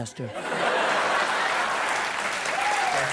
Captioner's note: laughter and applause